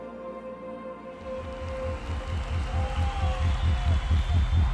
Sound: cheering

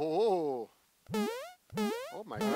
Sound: animated bounce

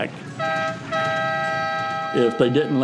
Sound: whistle blows

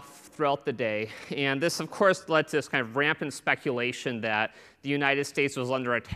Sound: laughter

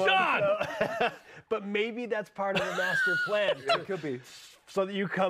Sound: laughter

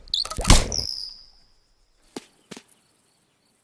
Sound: snapping

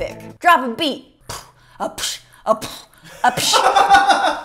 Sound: attempting to beatbox; laughter in background

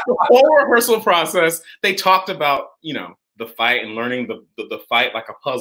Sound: laughs

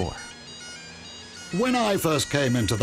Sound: man with English accent

